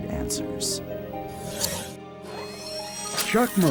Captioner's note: mechanical sounds